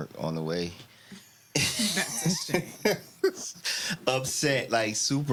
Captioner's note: laughing